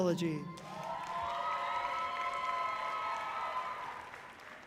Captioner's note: audience cheering loudly